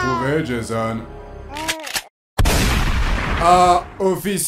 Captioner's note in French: bébé qui pleure